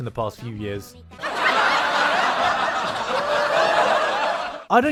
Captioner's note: laugh track